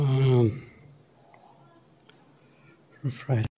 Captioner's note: pause